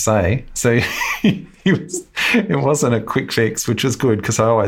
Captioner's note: laughs